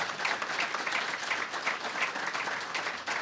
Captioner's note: applause